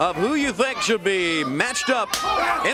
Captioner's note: crowd chatter